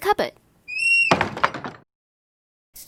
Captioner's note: cupboard door swings shut